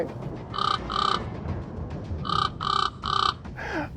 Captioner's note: bird caws